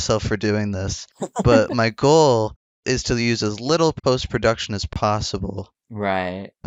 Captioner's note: laughs